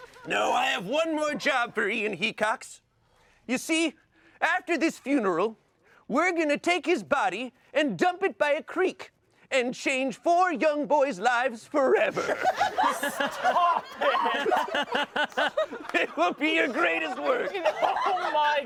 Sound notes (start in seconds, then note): 12.0 everyone laughs